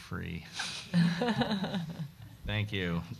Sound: group chuckling

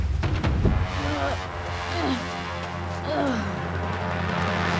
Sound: grunting

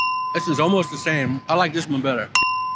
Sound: ding

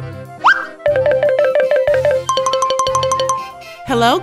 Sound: various cartoon sound effects

